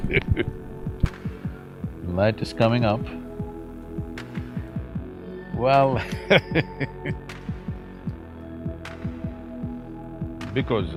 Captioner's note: Sadhguru laughs; laughs